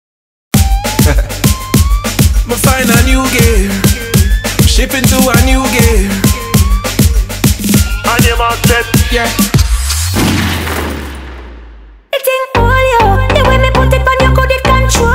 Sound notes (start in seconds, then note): 1.3 upbeat digital music; 9.9 gun shot